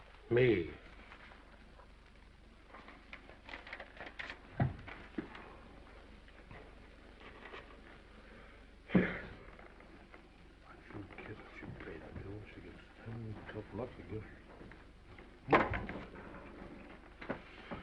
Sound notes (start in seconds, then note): 1.1 paper rustling; 8.9 sighs